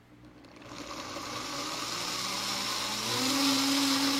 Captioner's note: blender whirring